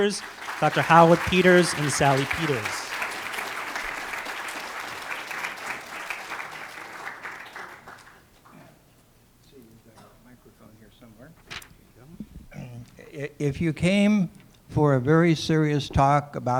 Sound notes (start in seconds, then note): 2.9 applause